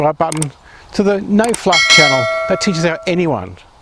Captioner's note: notification bell ringing